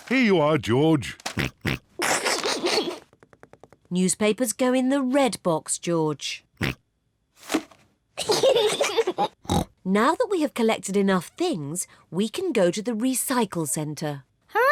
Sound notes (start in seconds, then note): 2.0 snorts, snickers; 6.9 snorts; 8.2 kids giggle